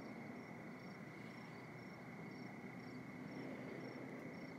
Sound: crickets chirping

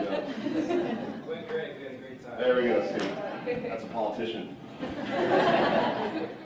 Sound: laughter

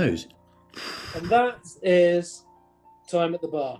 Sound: exhales

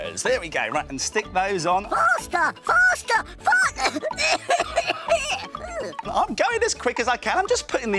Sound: coughs

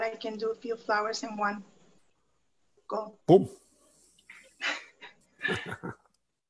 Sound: laughs

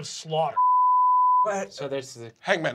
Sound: beeping

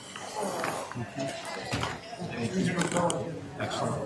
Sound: chattering

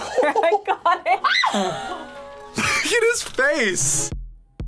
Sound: screams

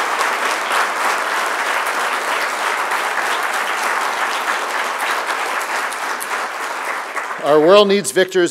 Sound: applause

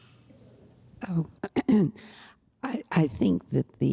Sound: clears throat

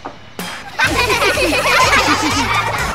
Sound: laughing

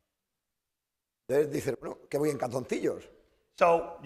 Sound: speaking spanish

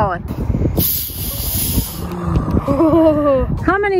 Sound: pressure releasing

